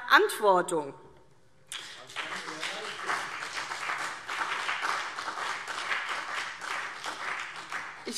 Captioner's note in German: Beifall CDU und vereinzelt BÜNDNIS 90/DIE GRÜNEN